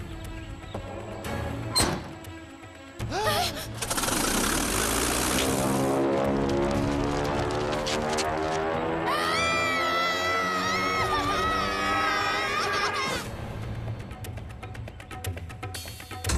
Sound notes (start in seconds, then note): 2.6 gasps; 9.0 screaming